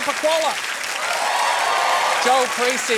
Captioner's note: cheering, applause